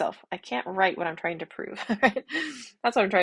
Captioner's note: chuckle